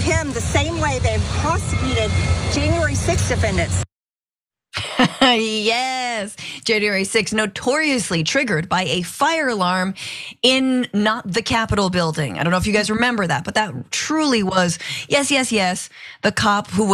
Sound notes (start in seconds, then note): 4.8 laugh